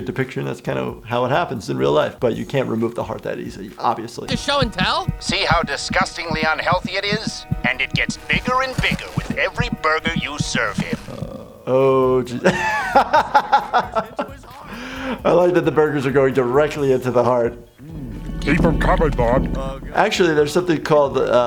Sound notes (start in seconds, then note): 12.3 laughing